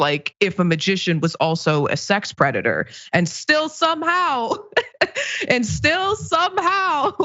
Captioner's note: laugh